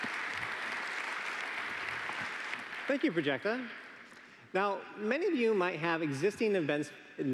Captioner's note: applause